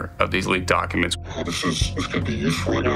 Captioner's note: voice filtered